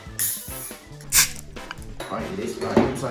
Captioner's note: hissing sound